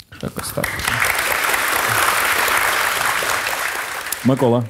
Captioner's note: the audience cheers